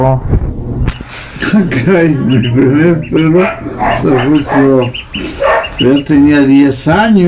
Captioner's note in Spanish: Risas